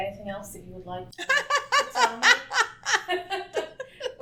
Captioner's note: laughs